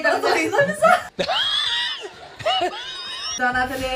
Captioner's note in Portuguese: Risos